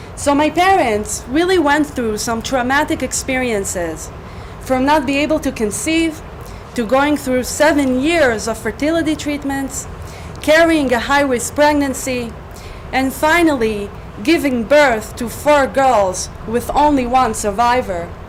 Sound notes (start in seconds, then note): none